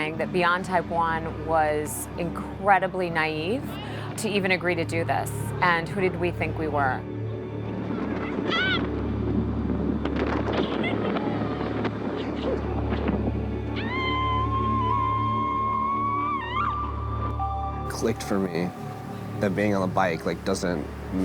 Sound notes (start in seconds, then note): 12.0 laughs; 12.3 wind whipping; 13.7 screams